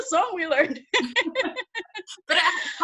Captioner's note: both laughs